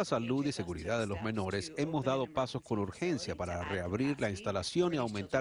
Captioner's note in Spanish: habla en ingés